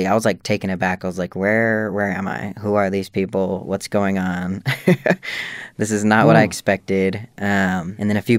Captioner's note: laughter